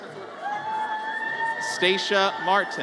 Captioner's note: audience cheers